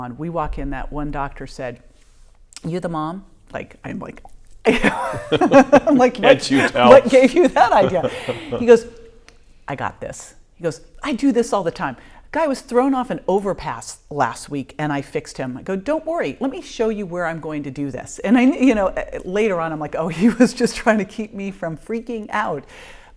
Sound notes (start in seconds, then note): 4.7 laughing